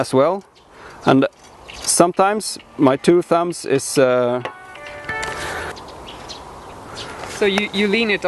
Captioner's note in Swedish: telefonen ringer